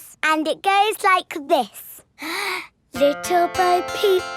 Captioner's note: inhales